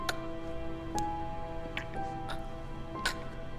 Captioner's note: Daphne choking